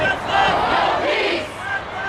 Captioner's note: crowd